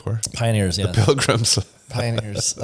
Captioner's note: laughs